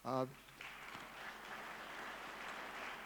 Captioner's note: clapping